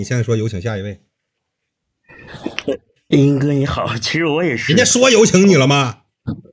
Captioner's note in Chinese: 大笑